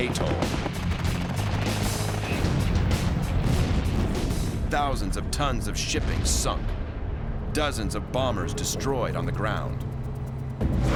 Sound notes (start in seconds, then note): 0.1 gunfire; 5.9 explosions